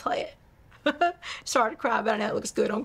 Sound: laughs

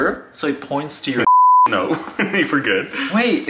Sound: beep

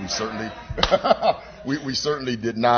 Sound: laughter

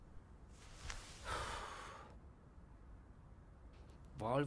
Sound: heavy breath

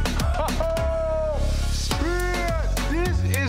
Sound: exclaims

